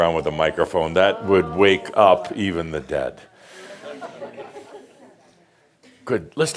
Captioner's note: a few more chuckles